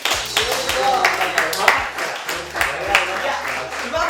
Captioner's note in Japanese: 拍手